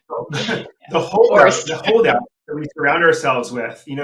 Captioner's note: laughing; voice muffling